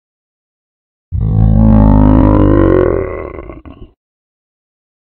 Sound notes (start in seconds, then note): 1.1 creature roar